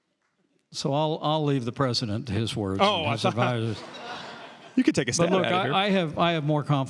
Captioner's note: laughter